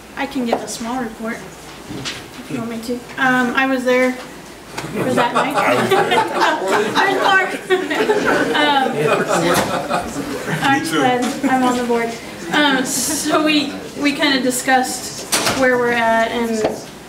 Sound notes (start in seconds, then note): 4.7 overlapping chattering; 4.8 group laughs